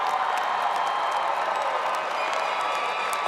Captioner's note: applause